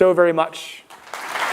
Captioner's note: applause